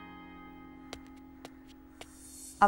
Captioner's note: Footsteps